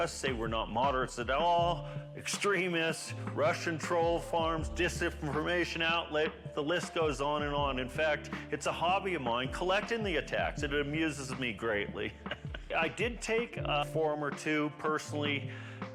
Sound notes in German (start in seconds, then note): 12.0 lacht